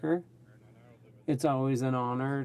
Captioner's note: speaking French